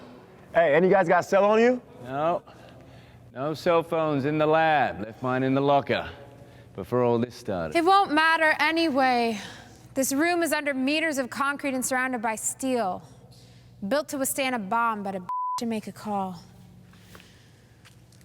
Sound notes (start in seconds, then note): none